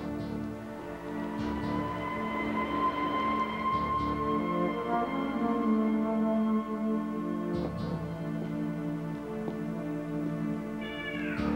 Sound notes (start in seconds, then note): 0.7 siren wails